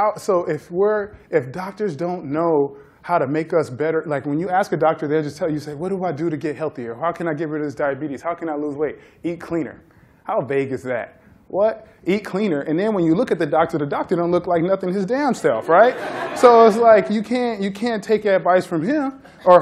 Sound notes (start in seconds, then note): 15.6 laughter